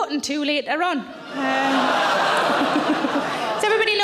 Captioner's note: audience laughing; audience groans